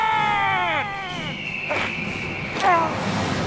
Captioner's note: eagle whistles